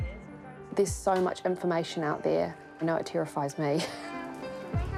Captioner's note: chuckles